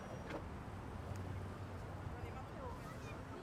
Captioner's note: none